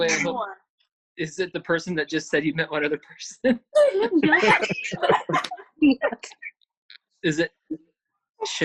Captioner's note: laughing